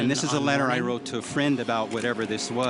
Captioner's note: none